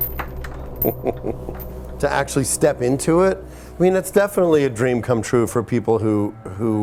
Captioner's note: laugh